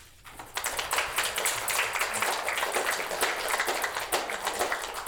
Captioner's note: applause